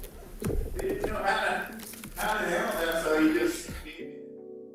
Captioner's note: man shouting